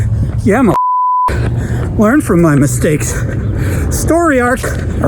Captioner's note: beep